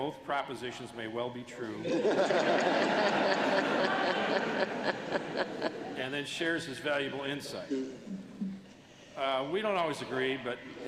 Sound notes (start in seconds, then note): 1.8 laughter